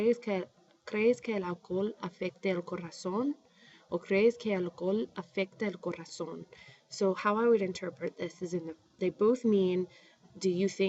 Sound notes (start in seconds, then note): 4.6 speaking spanish